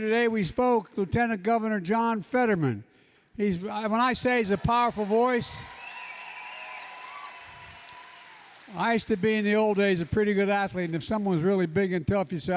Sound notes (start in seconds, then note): 6.1 applause